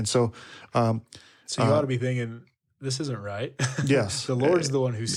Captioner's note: chuckles